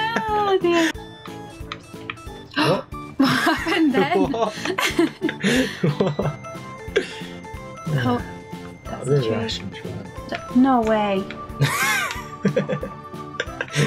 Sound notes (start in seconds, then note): 5.0 laughs; 13.3 laughs